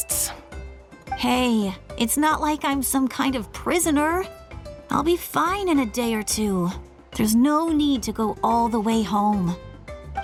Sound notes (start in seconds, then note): none